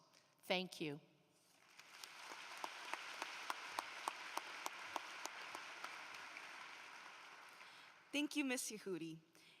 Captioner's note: applause